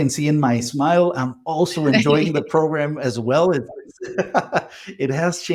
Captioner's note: laughs